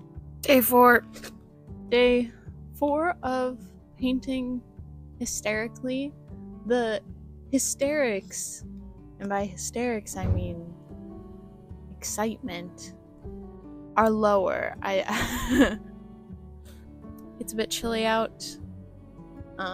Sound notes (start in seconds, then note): 15.1 laughter